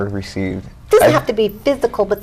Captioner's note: chuckles